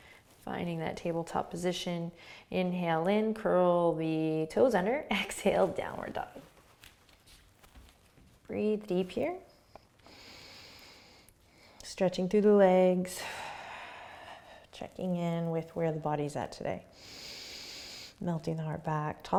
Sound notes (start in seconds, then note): 10.0 inhaling; 13.2 exhaling; 17.0 inhaling